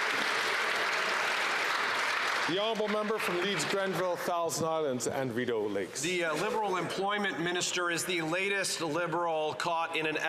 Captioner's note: some Applause